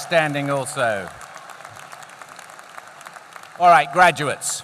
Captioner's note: applause